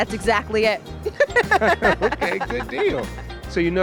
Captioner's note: laughter